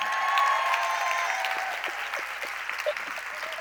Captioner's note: crowd cheers